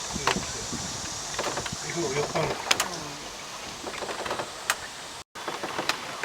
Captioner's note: quick ASMR: cicadas + creaky boat sounds